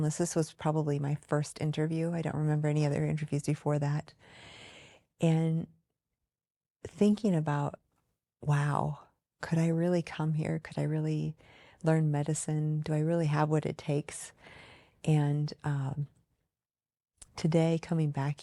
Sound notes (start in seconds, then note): none